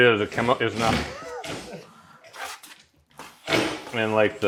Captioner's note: laughing